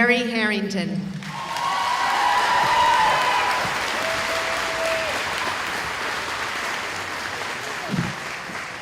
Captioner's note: cheering